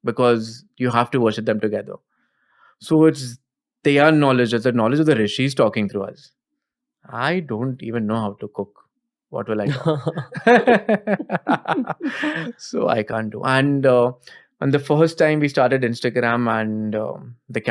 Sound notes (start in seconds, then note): 9.6 laughter